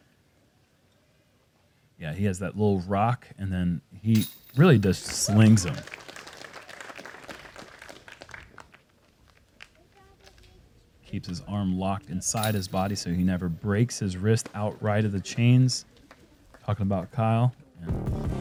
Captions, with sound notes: Yes, he has little rock and then he really just slings them. [applause] Keeps his arm locked inside his body so he never breaks his wrist out right at the chains, talking about Kyle.